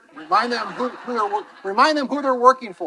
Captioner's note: attendees laughing